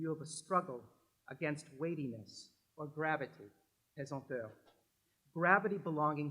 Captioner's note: french